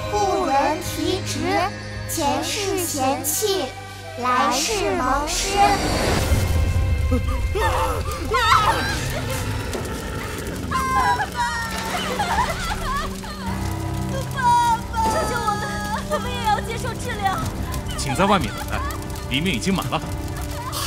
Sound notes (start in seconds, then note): 7.5 scream; 9.0 sob